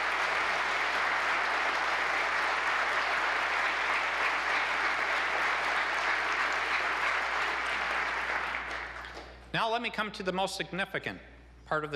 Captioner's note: applause